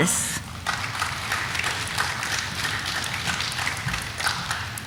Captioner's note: audience applauding